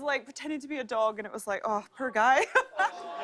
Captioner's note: laughter